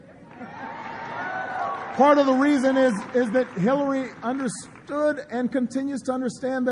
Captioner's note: applause